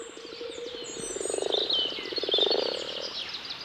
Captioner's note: frogs croaking